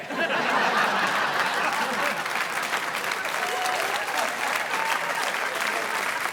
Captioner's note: audience laughing; audience applauding